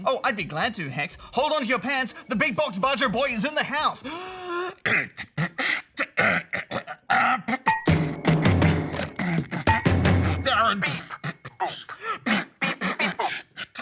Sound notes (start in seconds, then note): 4.5 beatboxes poorly; 7.7 clanging; 11.2 beatboxes poorly